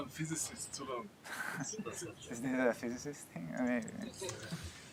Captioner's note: laughs